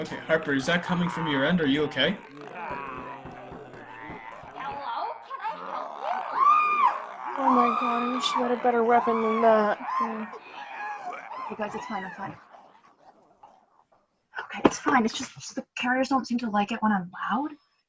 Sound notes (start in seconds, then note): 2.2 zombies growling and banging on doors; 6.3 WOMAN screams; 7.8 zombies growl; 9.5 WOMAN's screams fade; 12.8 zombie growls fade